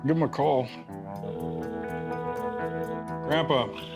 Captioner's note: phone ringing